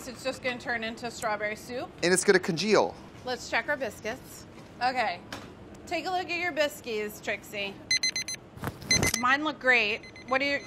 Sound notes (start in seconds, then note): 7.9 beeping